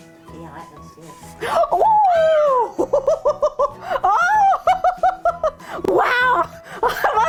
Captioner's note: laughing